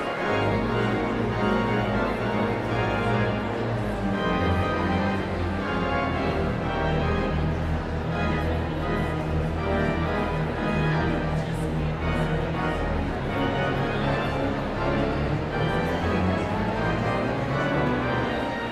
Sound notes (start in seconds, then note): 10.5 audience chatter continues; 10.5 sound of organ tuning